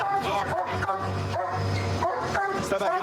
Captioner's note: barking